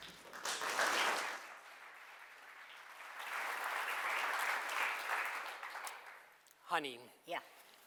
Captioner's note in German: Applaus